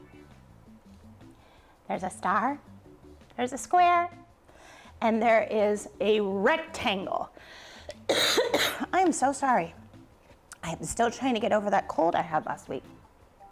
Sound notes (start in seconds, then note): 8.0 coughs